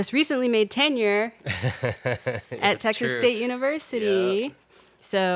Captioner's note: laughing